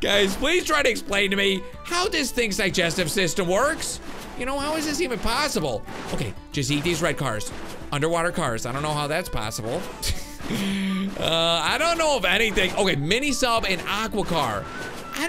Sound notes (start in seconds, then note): 10.0 laughs